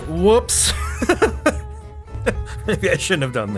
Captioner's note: laughs